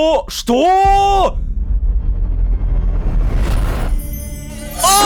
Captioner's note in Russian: Звук телепортации Искры